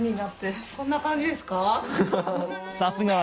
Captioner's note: man laughing